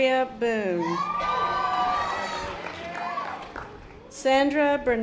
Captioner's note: audience applause